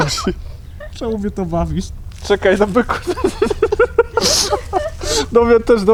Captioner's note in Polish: śmiech